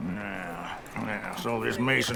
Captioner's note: spits